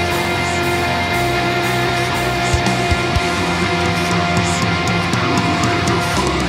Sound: echo

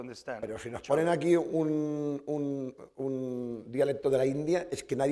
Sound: speaking spanish

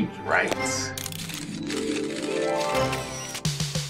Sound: camera shutters clicking

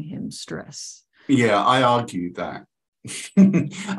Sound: chuckles

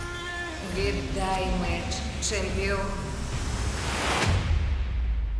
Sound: woman's voice echoing

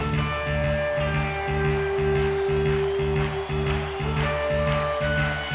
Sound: crowd claps

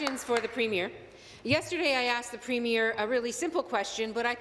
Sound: applause

